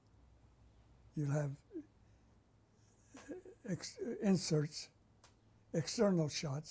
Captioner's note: pauses for 3 seconds